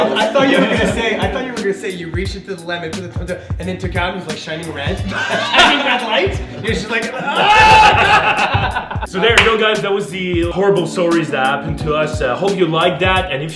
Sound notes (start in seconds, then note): 4.8 laughing; 6.7 yells